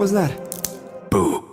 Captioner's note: twigs snaps